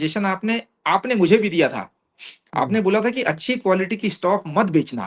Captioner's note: nasal voice